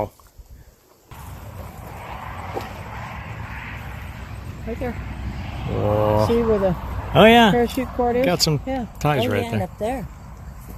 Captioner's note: distant traffic noise